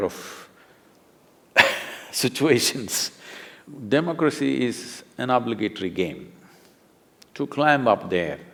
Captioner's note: laughs